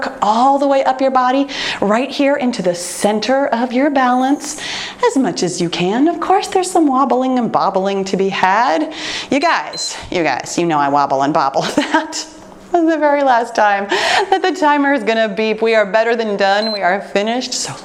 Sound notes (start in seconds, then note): 9.3 timer beeps